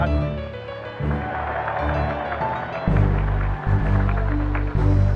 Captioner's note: applause